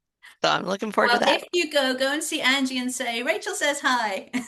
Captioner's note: laughter